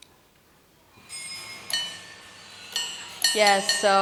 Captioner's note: metal chiming